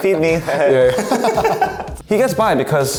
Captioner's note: both laugh